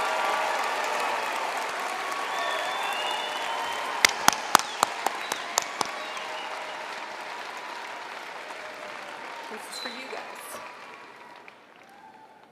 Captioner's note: cheering and applause